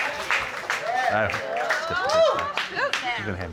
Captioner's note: applause